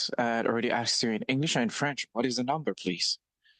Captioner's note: speaking French